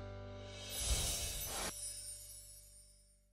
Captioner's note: chimes ringing